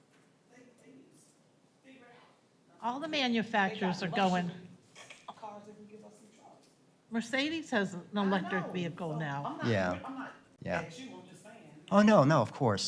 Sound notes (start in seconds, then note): 1.5 off microphone